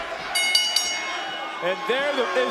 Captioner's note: bell rings